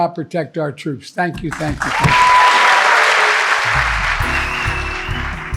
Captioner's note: audience clapping; upbeat music